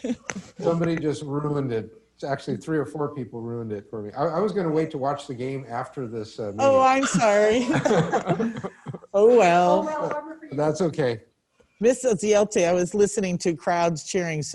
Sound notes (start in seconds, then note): 0.0 chuckles; 6.6 chuckling; 10.1 voice muffled